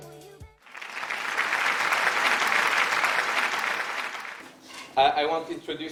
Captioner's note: applause